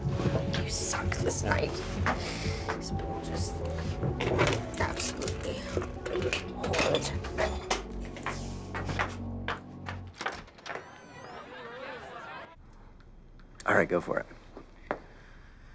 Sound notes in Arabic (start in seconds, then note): 4.2 غمغمة; 9.4 يفتح الباب